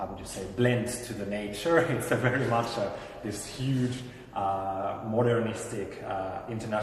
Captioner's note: laughs